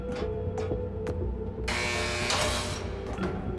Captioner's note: door buzzes